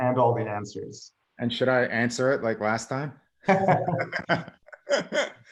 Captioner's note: laughs